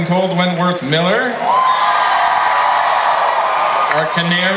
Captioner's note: audience applauds and cheers